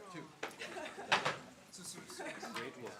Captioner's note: laughter